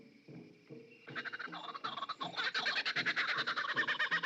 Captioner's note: birds Squawking